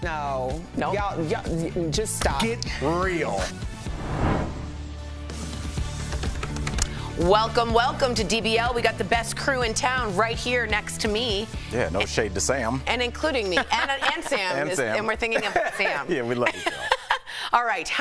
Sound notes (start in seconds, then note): 4.2 laughter